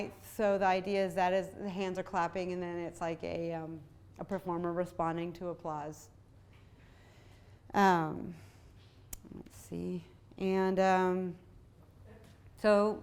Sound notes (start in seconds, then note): none